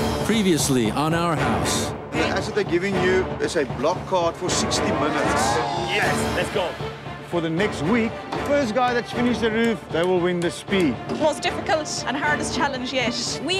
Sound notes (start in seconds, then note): 4.8 group cheers